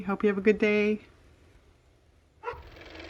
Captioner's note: car motor